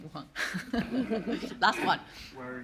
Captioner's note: everyone laugh